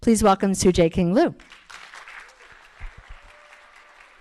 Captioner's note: applause